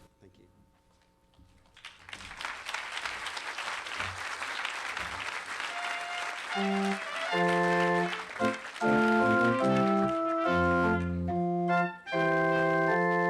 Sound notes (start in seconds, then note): 2.1 applause